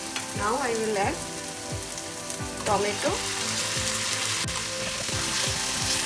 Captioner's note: oil sizzling